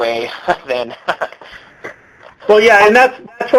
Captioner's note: laughs